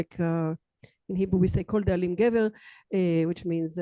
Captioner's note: hebrew